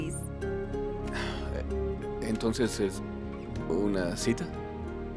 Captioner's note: Resopla